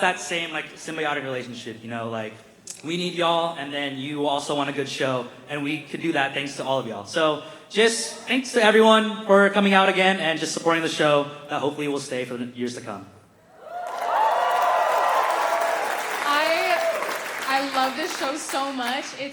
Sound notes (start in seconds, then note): 13.5 cheering; 13.8 applause